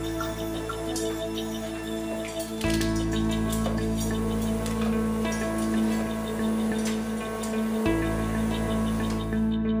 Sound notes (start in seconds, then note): 0.1 metal clinking; 3.9 suctioning